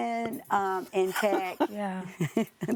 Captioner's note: all laughing